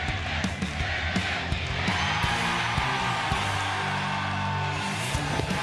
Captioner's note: fans chanting; cheers and applause